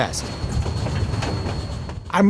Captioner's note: train chugging